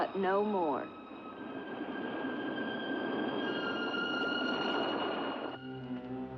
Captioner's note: waves rolling; eerie music; ominous music